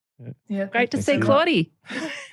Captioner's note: laughter